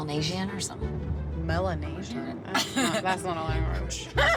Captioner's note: laughing